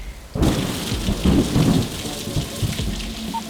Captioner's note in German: Donnerschlag